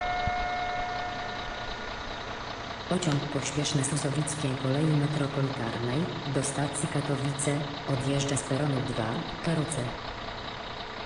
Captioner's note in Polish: Odgłosy maszyny SM42 i EP07SKMP